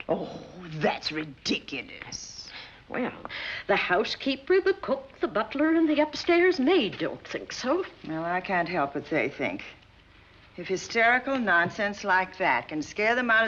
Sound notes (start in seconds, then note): none